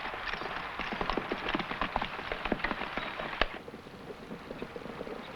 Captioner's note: horse hooves pattering